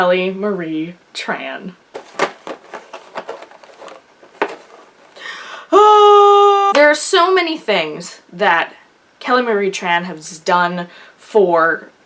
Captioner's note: screams